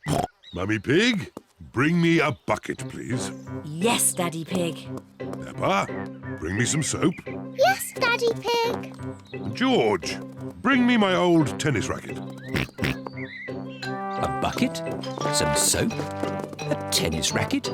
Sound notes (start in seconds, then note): 12.4 oinks